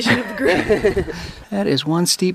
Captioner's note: laughter